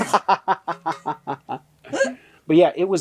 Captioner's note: laughter